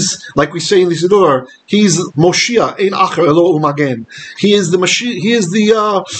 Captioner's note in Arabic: بالعبرية